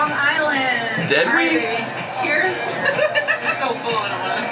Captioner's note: laughs